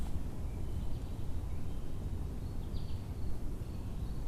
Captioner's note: birds chirping